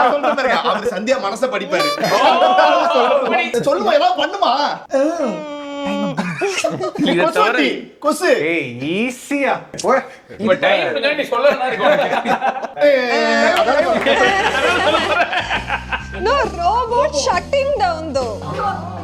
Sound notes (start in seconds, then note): 5.2 babbling; 11.4 laughing